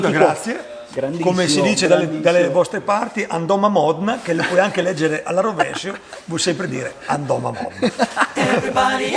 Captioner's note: in local dialect